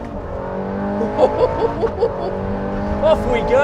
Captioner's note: chuckles